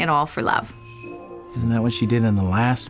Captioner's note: doorbell jingles